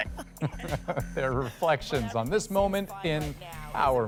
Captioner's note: laughter